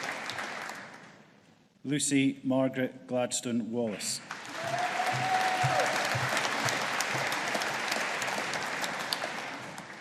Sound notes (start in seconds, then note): 4.2 audience applauding and cheering